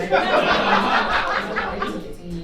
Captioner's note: audience laughing